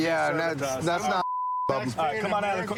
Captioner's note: chatter